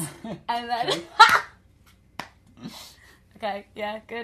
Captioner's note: laughter